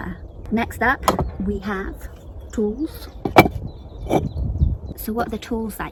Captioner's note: bricks scraping